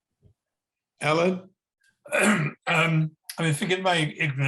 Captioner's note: clears throat